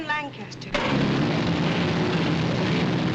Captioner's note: engines roaring